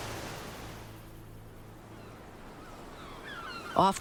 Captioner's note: birds cawing